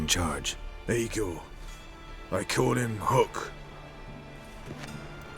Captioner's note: drowsily